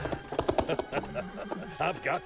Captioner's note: he chuckles